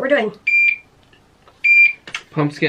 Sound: IV pump beeping

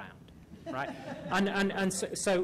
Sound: laughter

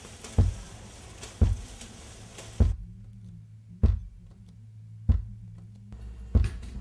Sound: thumping

